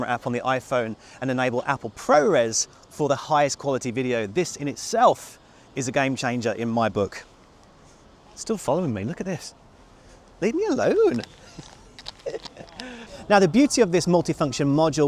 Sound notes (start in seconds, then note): 10.5 laughs